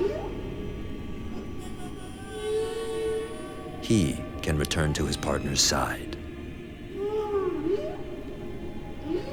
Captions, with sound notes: He can return to his partner's side. [whales singing]